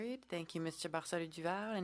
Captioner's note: speaking French